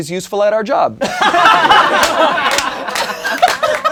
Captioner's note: laughing